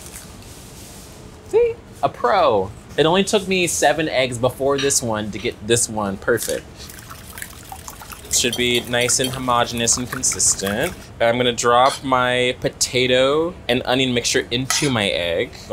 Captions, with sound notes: See a pro, it only took me seven eggs before this one to get this one perfect. [whisking eggs] Should be nice and homogenous and consistent. I'm gonna drop my potato and onion mixture into my egg.